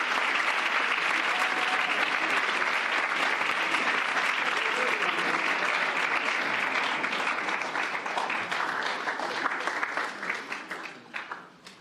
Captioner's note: cheers and applause